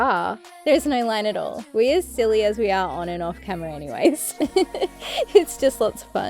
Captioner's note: laughs